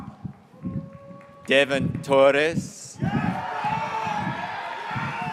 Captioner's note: graduates cheering